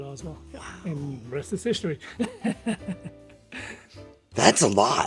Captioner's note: laughs